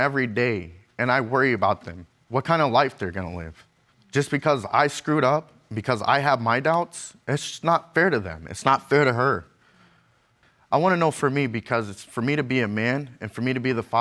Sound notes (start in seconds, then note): none